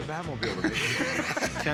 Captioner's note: laughter